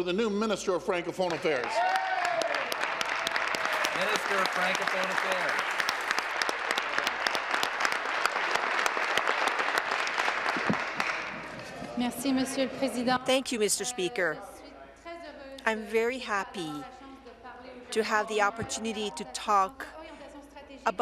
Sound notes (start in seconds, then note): 6.7 applause; 16.0 speaking in French